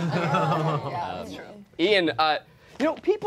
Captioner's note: all laughing